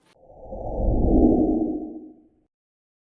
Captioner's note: whoosh